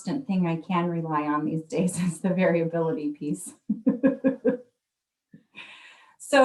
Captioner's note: laughs